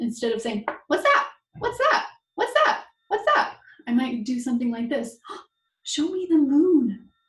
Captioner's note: breath